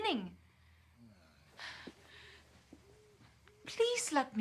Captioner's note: sighs